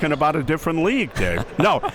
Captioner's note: laughing